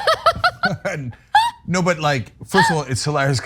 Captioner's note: laugh